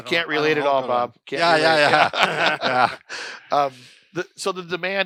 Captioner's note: laughter